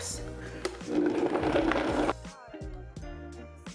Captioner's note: blender whirring; chilled music